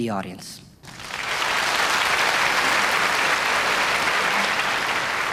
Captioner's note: audience clapping